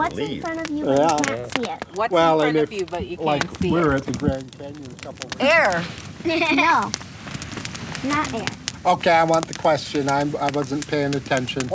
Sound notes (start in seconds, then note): 6.2 laughs